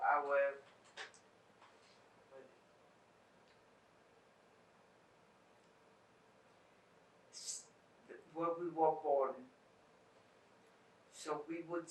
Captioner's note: pauses 8 seconds